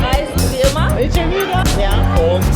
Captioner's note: speaking German